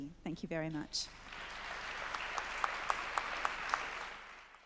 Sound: clapping

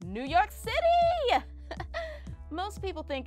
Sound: laughs

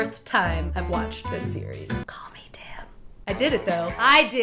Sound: whispers

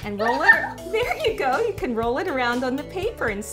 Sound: laugh

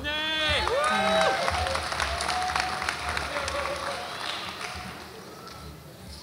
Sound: audience applauds and cheers

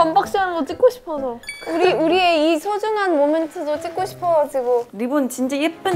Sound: smooth talking

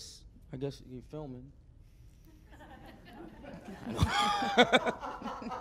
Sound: laugh

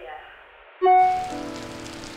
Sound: rain; phone notification

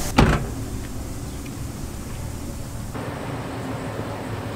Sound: car door closing; cars passing

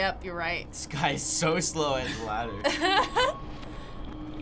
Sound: laughing

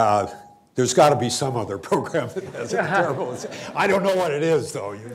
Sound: laughter

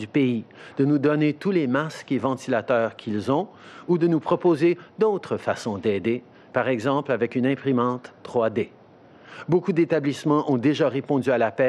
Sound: speaking french

